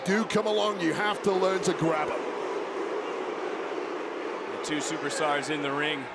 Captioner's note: crowd booing